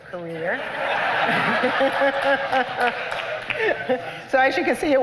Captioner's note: laughter